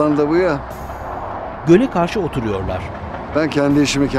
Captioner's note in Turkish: Trafik sesi